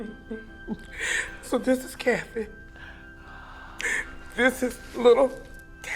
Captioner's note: whimpers